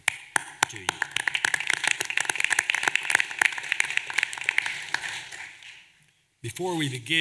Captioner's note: applause